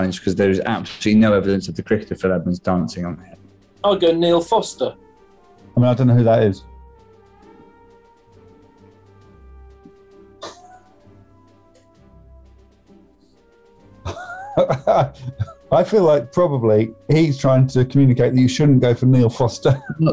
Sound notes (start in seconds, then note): 10.2 sniggering; 14.0 laughing